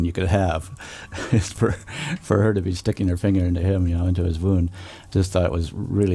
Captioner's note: laughs